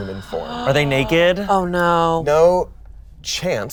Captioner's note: gasps